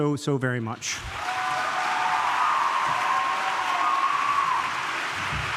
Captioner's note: audience cheering